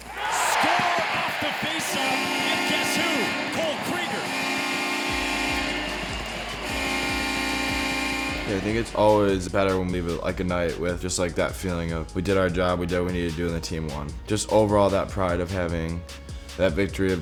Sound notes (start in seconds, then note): 0.2 cheering; 4.4 buzzing